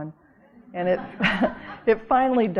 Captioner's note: audience laughing